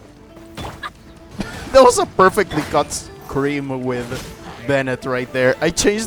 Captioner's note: laughing